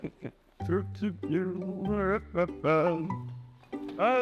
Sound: woodman hums; bright music

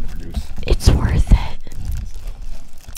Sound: whispering

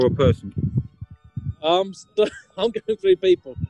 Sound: laughing

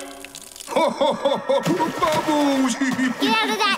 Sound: giggling; laughing

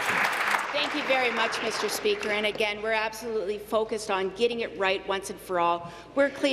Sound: applause

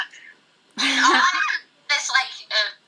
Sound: chuckles

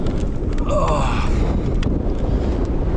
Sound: grunting

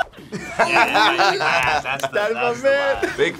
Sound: both laugh

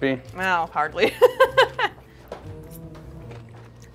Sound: laughs

